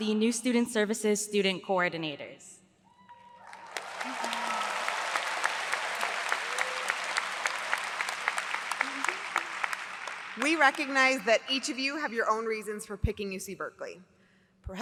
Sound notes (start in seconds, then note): 3.2 audience applauds